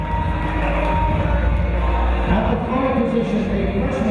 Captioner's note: cheering